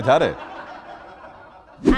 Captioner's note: laughter